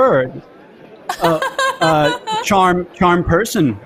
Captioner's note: laughs